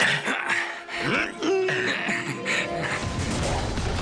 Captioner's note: grunts